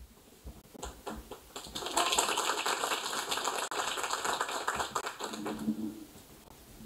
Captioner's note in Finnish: Aplodeja